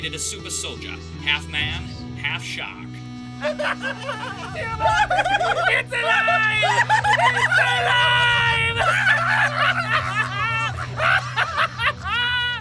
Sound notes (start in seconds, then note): 3.9 laughter; 9.0 laughter escalates